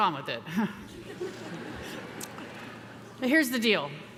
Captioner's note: chuckles; audience chuckles